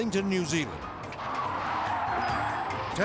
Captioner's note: tire screeching